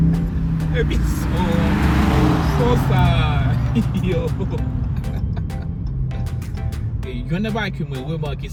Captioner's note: exhaust sound